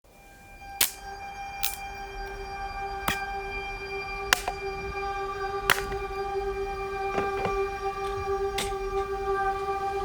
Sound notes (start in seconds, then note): 0.8 wood snapping; 5.6 wood snapping; 5.7 wood clattering; 6.6 gentle ethereal music